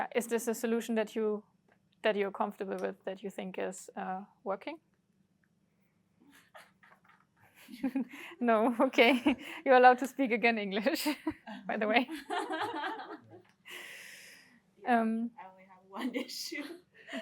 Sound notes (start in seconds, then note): 6.3 chuckles; 11.8 laughter